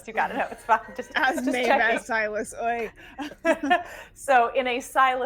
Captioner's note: laughing